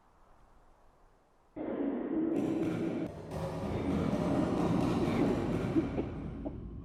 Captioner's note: heavy coughing echoing throughout building